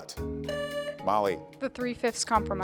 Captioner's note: tone sounds